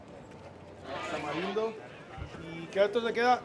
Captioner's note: voices speaking in Spanish